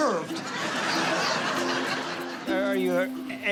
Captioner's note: laughter